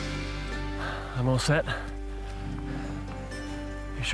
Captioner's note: sighs